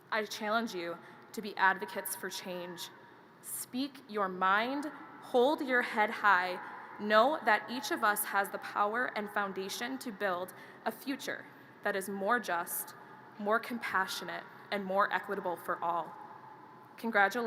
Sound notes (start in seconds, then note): none